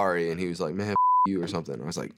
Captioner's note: beeps